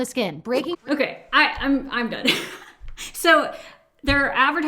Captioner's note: laughs